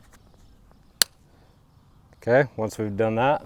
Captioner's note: wire snapping